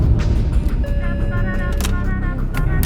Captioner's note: dramatic music; alarm beeping